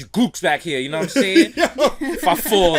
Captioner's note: laughs